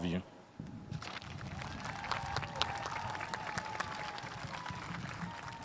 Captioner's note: spectators applauding